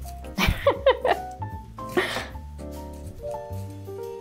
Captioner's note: laughing